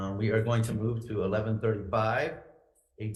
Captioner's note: none